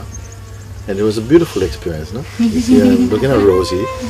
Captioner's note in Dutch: gegrinnik vanuit de groep